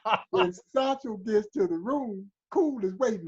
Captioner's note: laughter